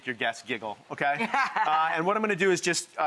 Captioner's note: laughs